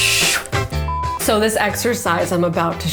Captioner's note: camera beeps